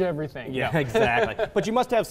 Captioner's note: chuckles; chuckling